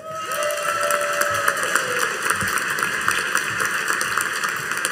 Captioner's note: audience cheering and applauding